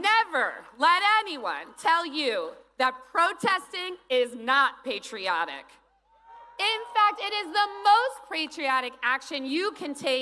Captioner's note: cheers and applause